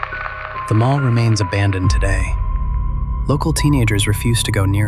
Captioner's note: the recording cuts to static